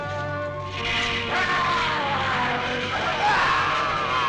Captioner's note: Larry shouting; Robert screams